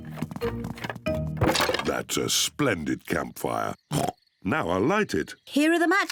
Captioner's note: oinks